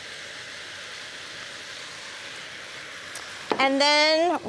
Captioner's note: sizzling